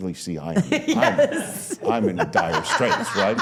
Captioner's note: laughs